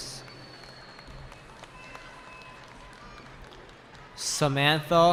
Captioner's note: cheering